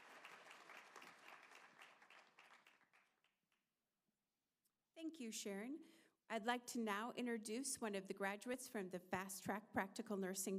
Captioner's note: applause